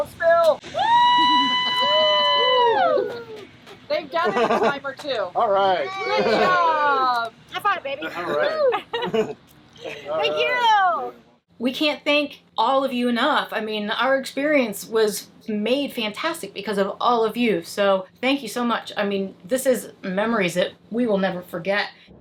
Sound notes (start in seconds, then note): 0.6 crowd cheering